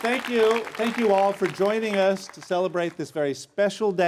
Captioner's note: applause